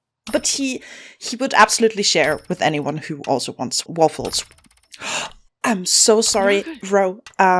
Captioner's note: gasps